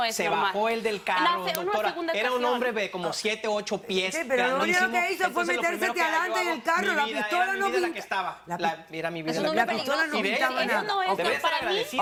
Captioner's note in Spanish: Hablan al unísono